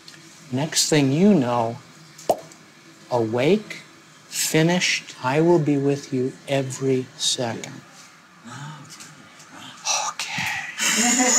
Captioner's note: popping sound